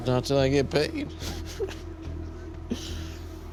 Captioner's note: laughs; tense music